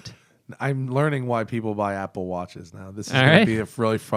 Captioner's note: laughter